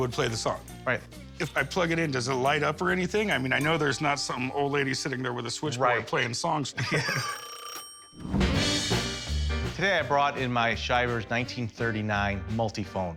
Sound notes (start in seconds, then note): 6.9 phone rings